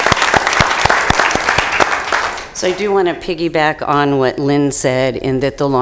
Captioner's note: applause